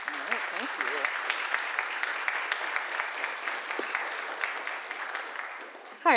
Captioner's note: applause